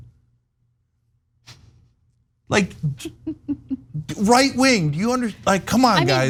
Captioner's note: laugh